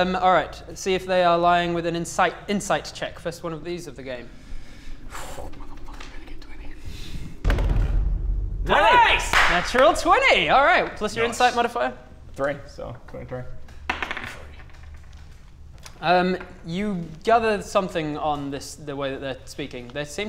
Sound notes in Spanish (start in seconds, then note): 4.9 Susurro; 13.8 Tirada de dados